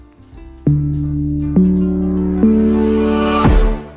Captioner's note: stomps